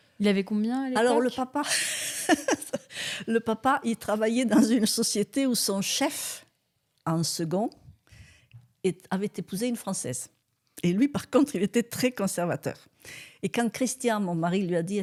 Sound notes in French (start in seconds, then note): 1.6 rires